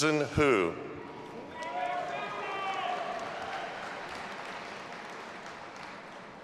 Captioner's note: audience applauding and cheering